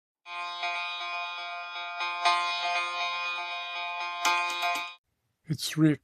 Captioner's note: alarm clock